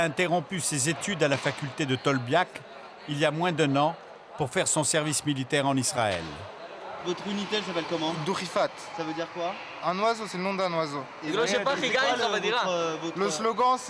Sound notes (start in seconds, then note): 3.1 French spoken audio